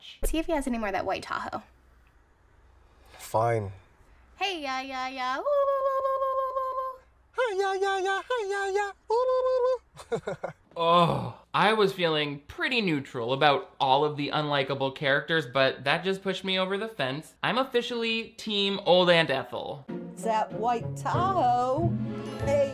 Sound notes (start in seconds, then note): 9.2 laughing